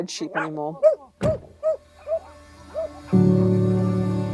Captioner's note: car door bangs; dog barks; gentle music